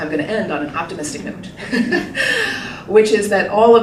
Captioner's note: laughing